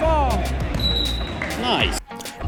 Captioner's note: referee whistling